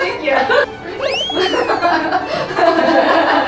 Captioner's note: yawning